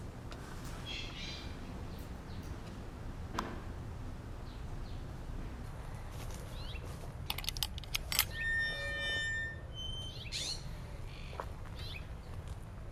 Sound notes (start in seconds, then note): 7.4 creaking gate